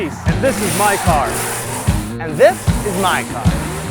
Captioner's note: engine screams